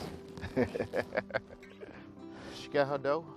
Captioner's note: laughs